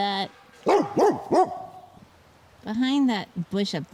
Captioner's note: barking and hammering